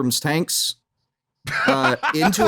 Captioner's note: laughs intensely; laughs with vigor